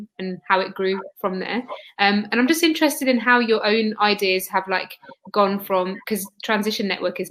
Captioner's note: erm